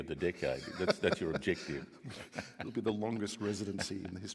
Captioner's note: laughs